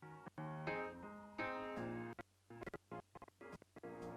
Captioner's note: none